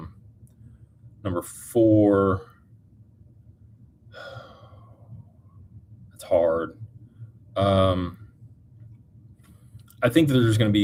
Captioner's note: sighs and gasps